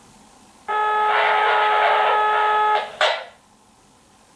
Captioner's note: walkie talkie interference